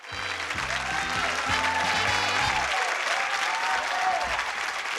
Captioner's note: upbeat music; cheers and applause